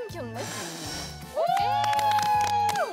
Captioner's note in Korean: 후 후